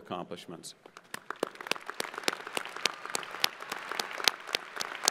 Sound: crowd applauding

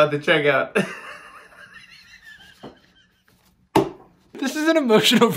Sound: Jimmy laughing hysterically

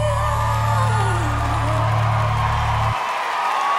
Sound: crowd cheering

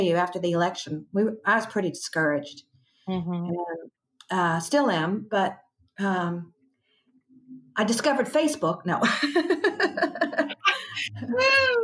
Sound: laughter

